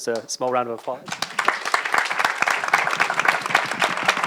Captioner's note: audience applause